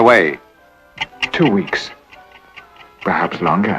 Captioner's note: quick ticking in background